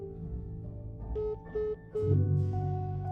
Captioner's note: phone beeping